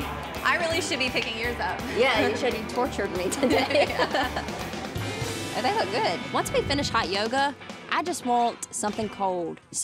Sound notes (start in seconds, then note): 3.3 both laughing